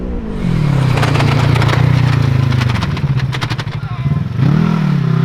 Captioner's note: ATV engine roaring